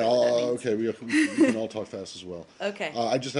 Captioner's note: laughter